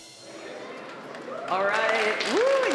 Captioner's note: applause